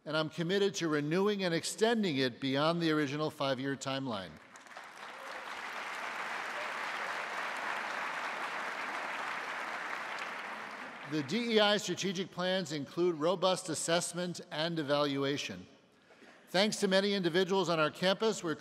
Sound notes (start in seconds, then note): 4.4 audience applauding